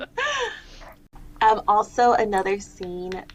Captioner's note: laughter